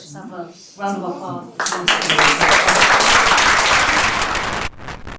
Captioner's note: applause